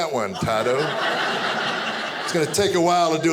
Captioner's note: audience laughing